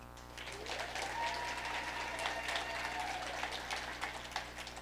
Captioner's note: audience applauding